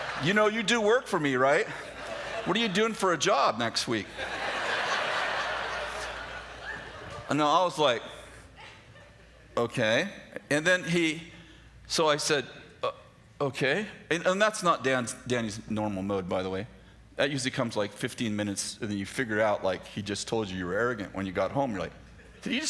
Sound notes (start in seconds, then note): 4.1 laughter